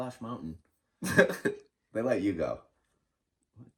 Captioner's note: chuckling